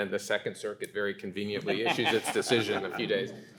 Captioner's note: laughing